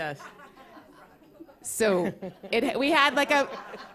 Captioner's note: laughter